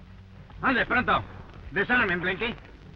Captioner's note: Pablo speaking in foreign language